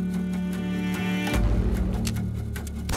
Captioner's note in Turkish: silah sesi